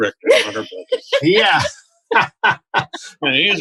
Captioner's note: laughter; laughter